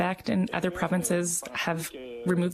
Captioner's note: speaking french